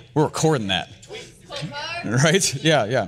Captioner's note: woman shouting